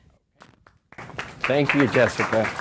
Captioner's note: audience applauds